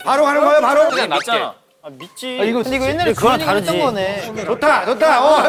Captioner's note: murmuring before the trust game